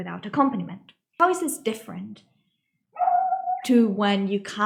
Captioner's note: dog loudly barking...sorry